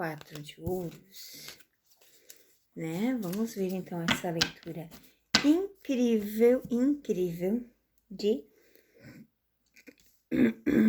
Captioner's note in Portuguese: limpando a garganta